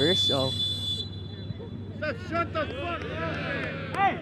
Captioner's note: whistle blows